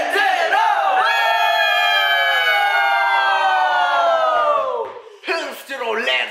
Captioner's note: AROHA: Cheering